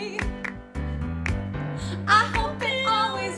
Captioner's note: clapping